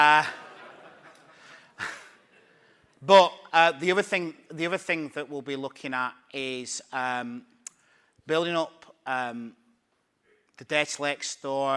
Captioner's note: laughing